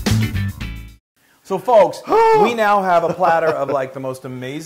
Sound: laugh

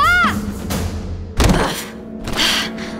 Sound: thump

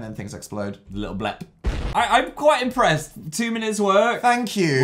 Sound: explosion

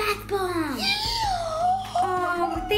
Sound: gasps

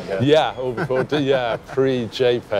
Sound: chuckles

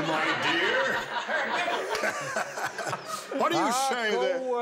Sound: laughter

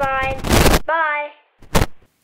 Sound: crackle!

